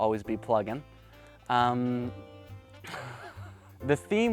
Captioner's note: laughs